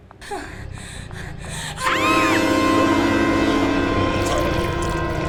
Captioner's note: screaming